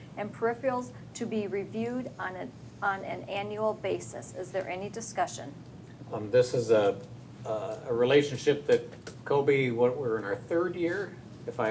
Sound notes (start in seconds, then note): none